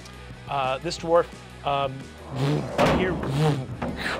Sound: mimics zooming

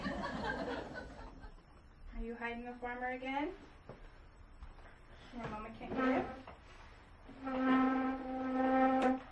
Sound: audience laughs; chair squeaks as it slides

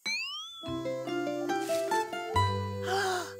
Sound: gasps

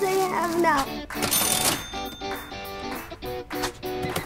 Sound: upbeat music; cash register ringing; cash register beeping and whirring

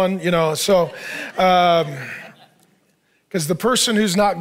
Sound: congregation laughing

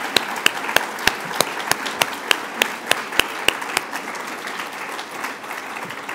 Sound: applause

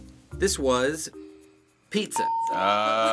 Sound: ding

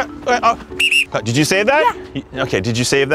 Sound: whistle

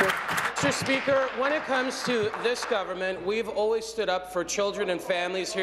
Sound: applause

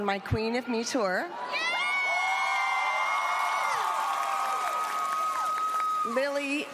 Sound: cheering

